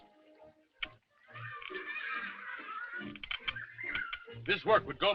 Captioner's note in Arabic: أطفال يتحدثون